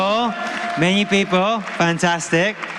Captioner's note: applause